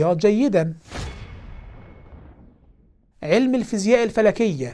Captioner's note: sound effect